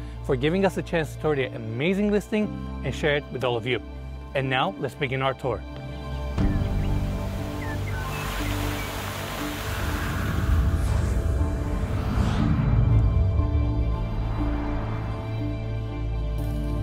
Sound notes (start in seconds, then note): 5.9 birds chirping; 6.4 gentle music